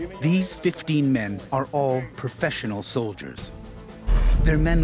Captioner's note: voiceover